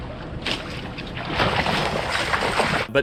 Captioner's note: water splashing